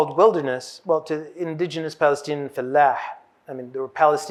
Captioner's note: hebrew